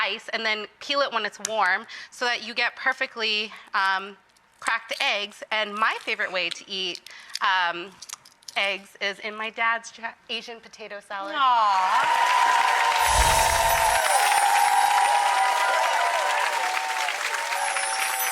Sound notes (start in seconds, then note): 11.8 audience applauding